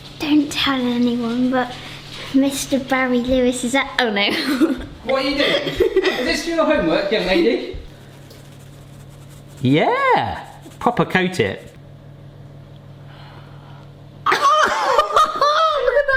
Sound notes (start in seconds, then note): 7.1 speaking faintly; 14.3 laughing